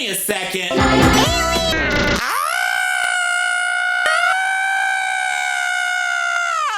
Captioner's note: yelling